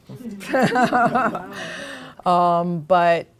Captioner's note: laughter